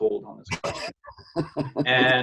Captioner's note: interviewer laughing